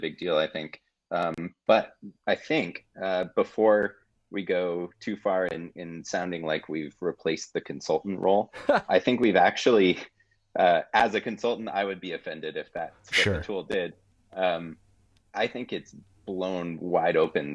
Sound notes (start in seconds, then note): 8.5 laughing